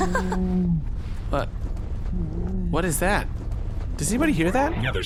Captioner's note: laughs; a muffled groan comes from somewhere